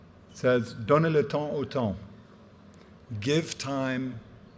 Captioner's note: speaking in french